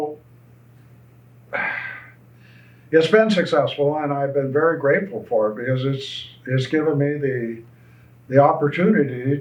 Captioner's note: sighs